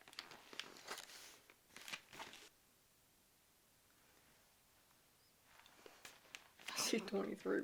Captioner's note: crinkling